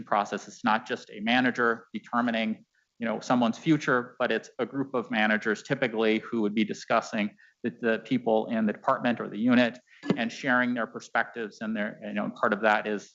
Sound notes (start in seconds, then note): none